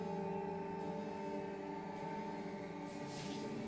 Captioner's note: buzzing